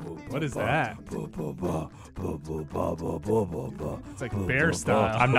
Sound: even more really poor beatboxing; even worse beatboxing

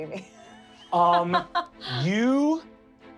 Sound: laughing

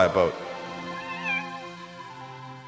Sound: Zoey meows

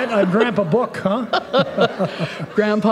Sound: laughter

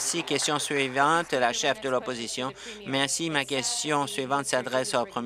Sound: applause

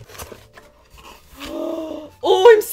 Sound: dramatic gasp

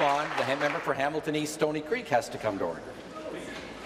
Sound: applause

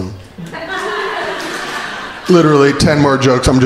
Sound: crowd laughing

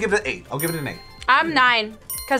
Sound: bell chimes

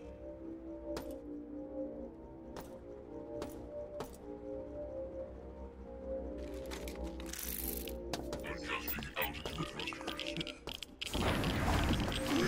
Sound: gunshots

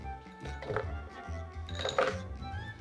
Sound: potatoes dropping

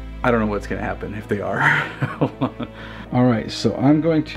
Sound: laughs

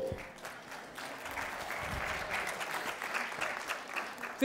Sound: applause

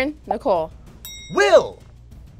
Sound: bell rings

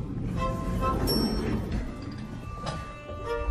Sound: elevator bell; cinematic music

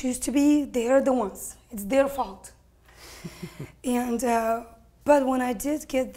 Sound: laugh off screen

